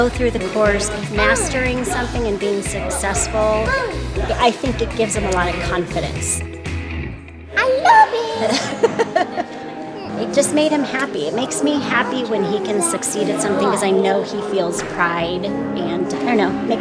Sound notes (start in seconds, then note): 7.6 laughs